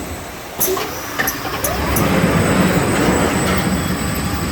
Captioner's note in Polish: dźwięk motocykla